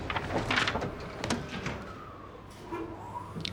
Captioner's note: elevator door closing; elevator whirring